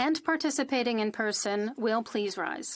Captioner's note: speaking French